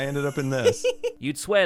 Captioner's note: giggles